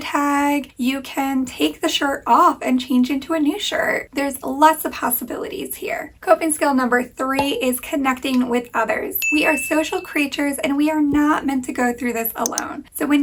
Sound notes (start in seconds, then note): 9.2 bell pinging